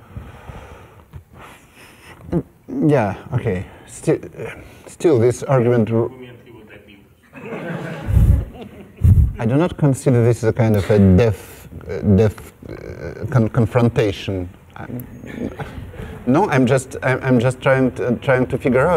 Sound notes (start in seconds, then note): 7.2 laughter